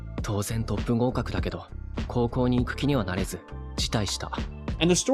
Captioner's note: speaking in foreign language